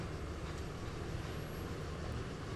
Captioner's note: machine sound